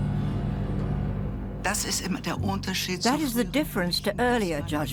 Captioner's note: in German